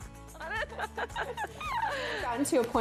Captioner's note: laughing